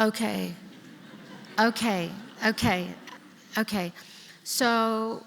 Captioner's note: laughter